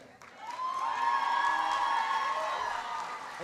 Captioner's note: applause